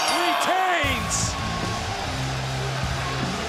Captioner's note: bell rings